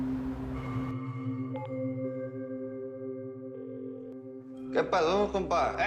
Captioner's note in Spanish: Celular llamando